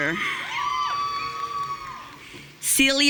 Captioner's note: audience cheering